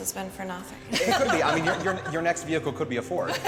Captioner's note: laughs